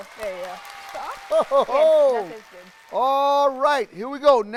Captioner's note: people applauding